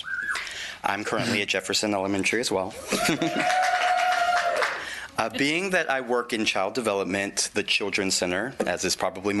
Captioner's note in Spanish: Aplausos